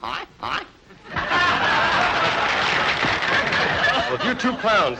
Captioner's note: crowd laughing; crowd applauding